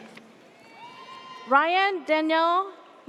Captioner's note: audience cheers